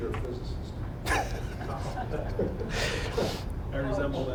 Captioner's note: laughing